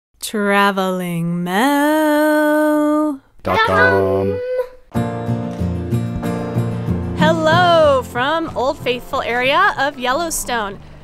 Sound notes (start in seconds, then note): 3.5 multiple Voices Together; 4.9 guitar music